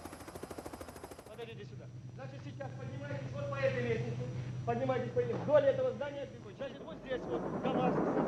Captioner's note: russian rescue workers chatting